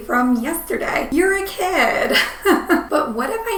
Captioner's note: laughing